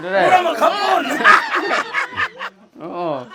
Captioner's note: laughs